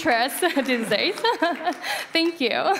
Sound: applause

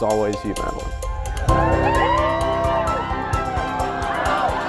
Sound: cheering

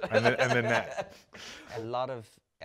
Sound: both chuckle

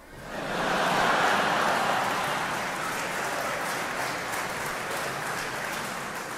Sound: audience applauding; audience laughing

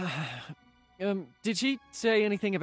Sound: sigh

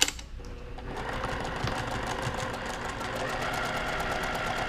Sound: machine whirring

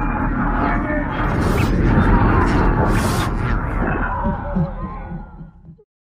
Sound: demonic growls and screams

